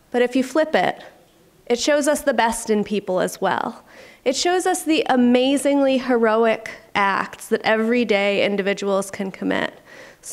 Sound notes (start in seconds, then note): none